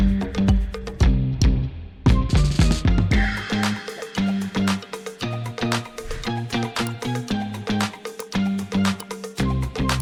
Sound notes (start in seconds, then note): 0.5 upbeat music continues; 6.8 mouse clicking